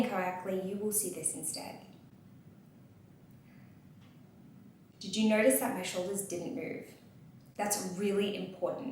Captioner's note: inhales and exhales